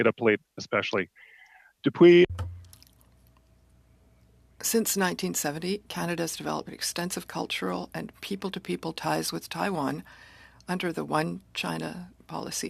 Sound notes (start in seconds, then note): 7.7 speaking French